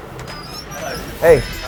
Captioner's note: door squealing